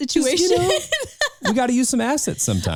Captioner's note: laughing